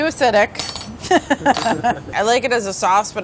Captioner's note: laughter